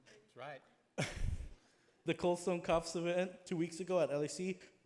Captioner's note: laughs